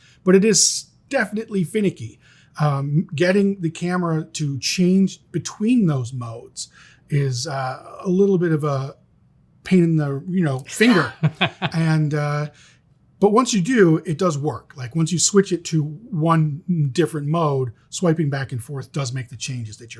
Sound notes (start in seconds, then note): 10.6 laughs